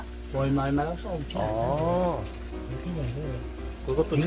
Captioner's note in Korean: 감탄